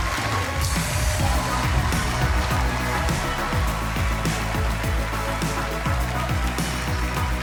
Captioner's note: audience cheering; cheerful music